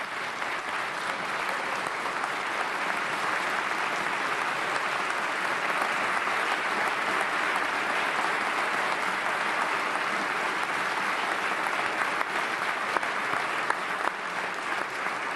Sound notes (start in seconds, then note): 2.1 applause